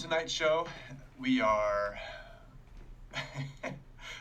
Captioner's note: chuckling